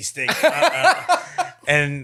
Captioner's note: laughing